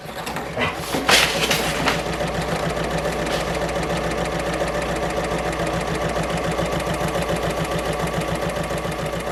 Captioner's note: sewing Machine Sounds